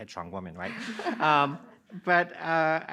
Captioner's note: audience laughing